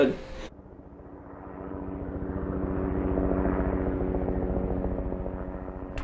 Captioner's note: helicopter engine roaring